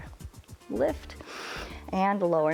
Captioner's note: inhales